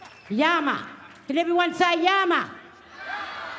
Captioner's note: cheering